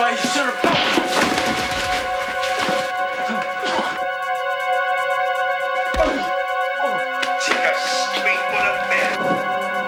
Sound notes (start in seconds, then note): 2.4 scuffling and grunting